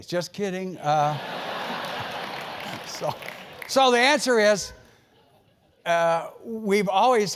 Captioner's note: laugh